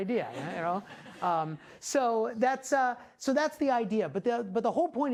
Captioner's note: class laughing